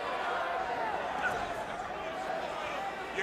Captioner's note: crowd chatter